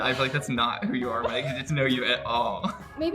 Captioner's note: laughs